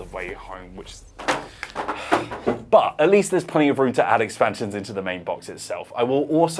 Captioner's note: sigh